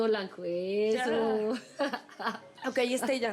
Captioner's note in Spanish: tuti ríe